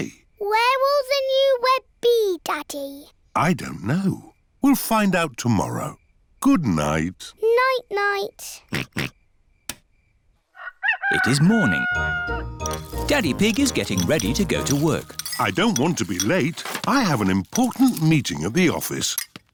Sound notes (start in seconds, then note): 8.7 oinks; 10.5 rooster crows